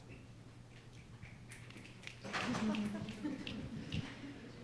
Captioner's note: fingers snapping